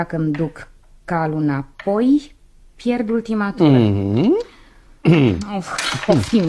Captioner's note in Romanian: voce dreasă